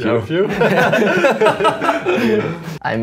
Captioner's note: laughs